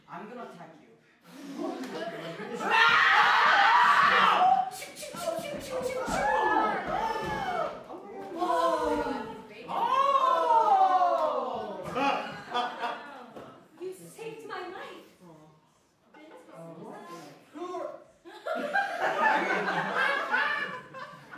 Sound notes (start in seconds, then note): 2.2 Mr. Piglet squeals loudly; 11.9 laughter; 18.2 laughter